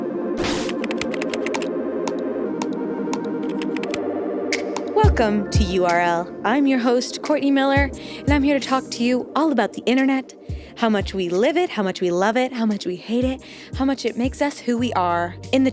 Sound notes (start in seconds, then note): 0.4 mouse button clicking